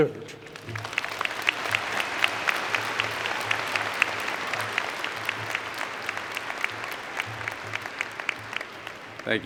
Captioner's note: applause